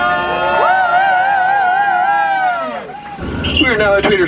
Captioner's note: cheering